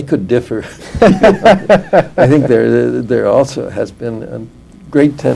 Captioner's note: laughter